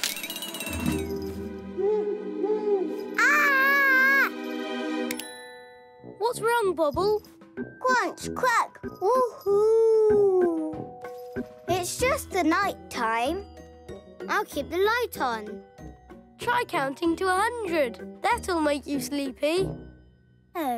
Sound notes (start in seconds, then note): 0.2 cracking; 0.2 tense music; 2.0 hooting; 3.2 screams